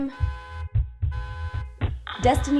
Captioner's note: horn honking